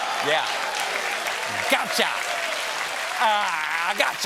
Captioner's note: applause